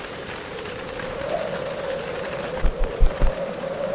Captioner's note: wind howling